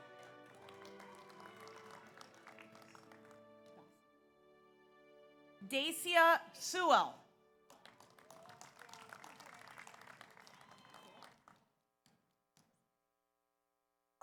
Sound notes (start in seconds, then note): 0.0 audience applauds; 0.0 audience cheers; 7.6 audience applauds